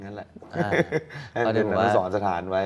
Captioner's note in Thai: เสียงหัวเราะ